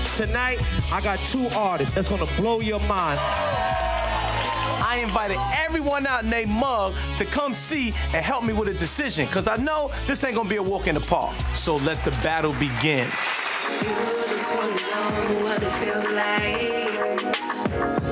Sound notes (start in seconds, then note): 2.9 crowd cheering